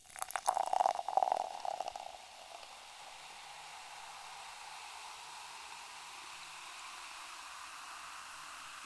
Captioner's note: pouring into mug